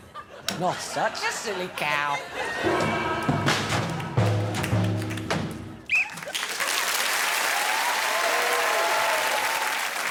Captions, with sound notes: Not such a silly cow. -[whistle blows] -[cheering and appluase]